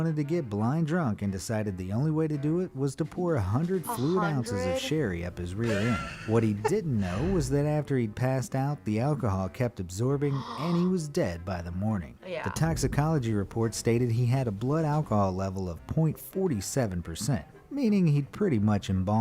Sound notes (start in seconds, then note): 5.5 laughs; 10.2 gasps